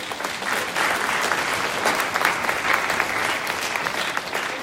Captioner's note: audience applauding